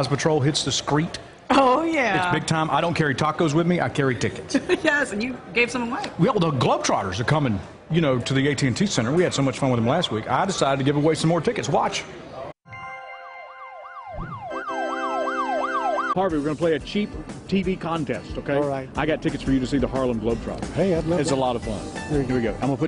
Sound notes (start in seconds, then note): 4.5 laughter